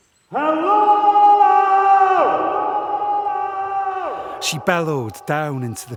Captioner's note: voice echoes